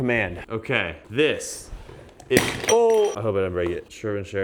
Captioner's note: object clinking